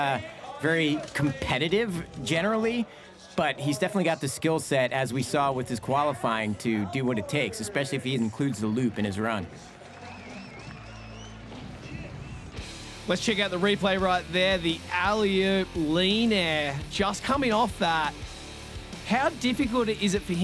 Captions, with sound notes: You heard it in his interview. He's not very competitive generally. But definitely got the skill set as we saw with his qualifying to do what it takes, especially if he includes the loop. [CHEERS AND WHISTLES] Let's check out the replay. The alley-oop lean air. Just coming off that.